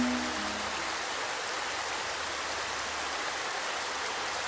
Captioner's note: water rushing